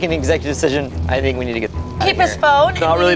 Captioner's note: beeps